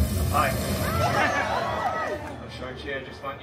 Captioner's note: guests cheering